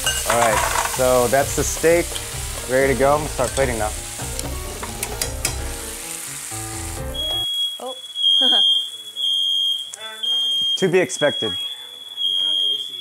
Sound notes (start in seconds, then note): 4.5 steak sizzling; 7.1 fire alarm beeping